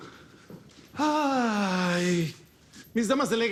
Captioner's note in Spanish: Suspiro